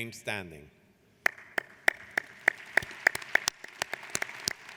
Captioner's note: applauding